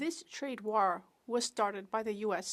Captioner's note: speaking French